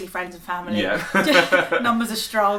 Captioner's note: laugh